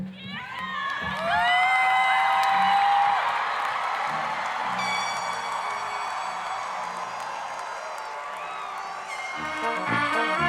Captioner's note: applause, cheering